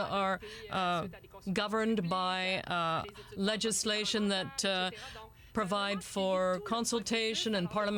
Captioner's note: speaking french